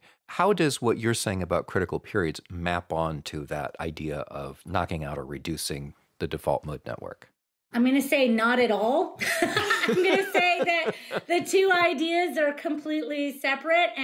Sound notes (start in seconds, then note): 9.2 both laughing